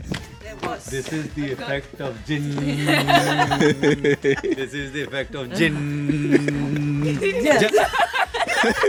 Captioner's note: laughter